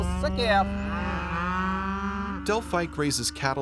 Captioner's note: cows mooing; voiceover